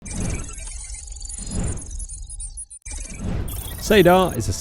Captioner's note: electronic sounds